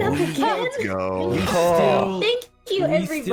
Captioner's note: all chatter